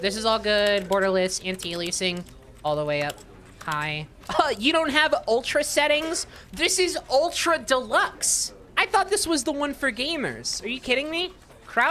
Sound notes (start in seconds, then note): 4.3 sarcastic; 5.0 scoffs